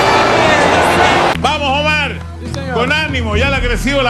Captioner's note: Spanish